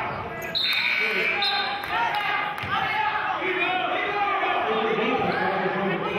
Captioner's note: whistling and buzzer sounding